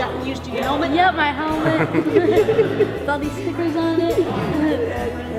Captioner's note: laughing